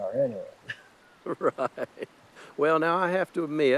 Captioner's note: laughing